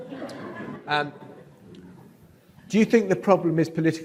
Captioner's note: audience laughs